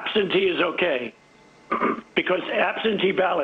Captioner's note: clears throats